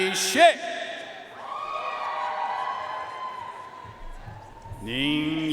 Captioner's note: audience cheering and applauding